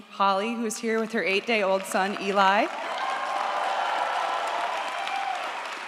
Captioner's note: audience applauds